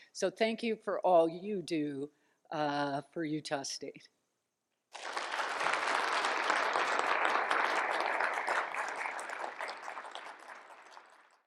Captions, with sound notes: So, thank you for all you do for Utah State. [Applause]